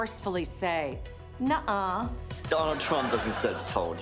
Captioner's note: studio audience laughs